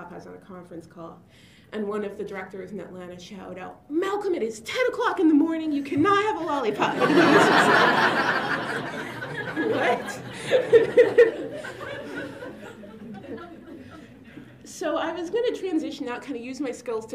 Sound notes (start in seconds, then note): 6.6 laughter